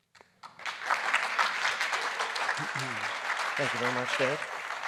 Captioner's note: audience applauding